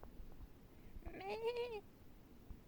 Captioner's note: trying to speak goat language